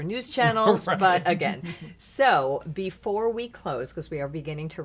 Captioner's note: laughing